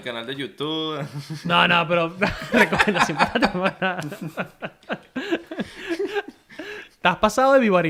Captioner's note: laughter